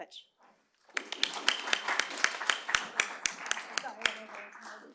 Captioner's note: applause